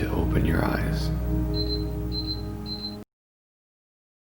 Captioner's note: beeping